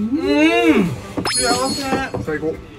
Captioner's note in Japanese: 効果音 ✨キュピーン✨